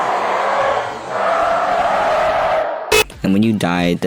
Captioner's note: beeep